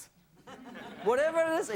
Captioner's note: audience laughs